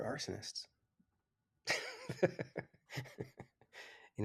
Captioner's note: laughs